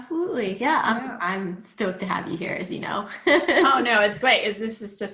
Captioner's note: laughs